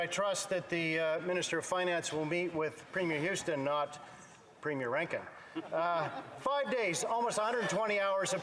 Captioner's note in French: voix de l'interprète